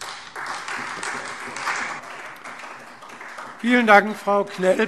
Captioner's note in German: Beifall Freie Demokraten und vereinzelt SPD